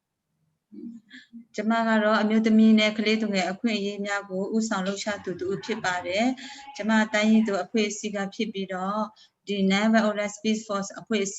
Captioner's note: speaking in another language/ Interpretation